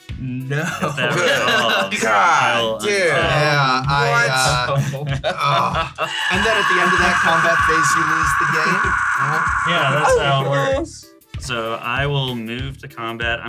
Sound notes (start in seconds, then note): 0.6 laughs; 6.0 despair metal noise; 9.8 whimper metal noise